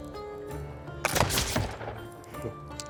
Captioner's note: gunshot